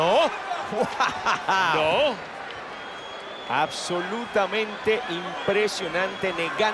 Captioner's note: laugh